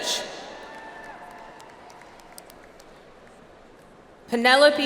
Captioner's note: audience applauds